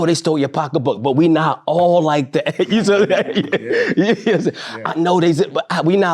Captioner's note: laughs